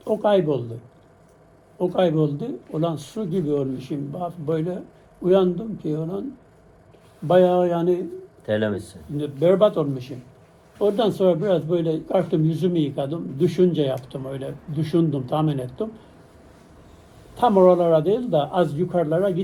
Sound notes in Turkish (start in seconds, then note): none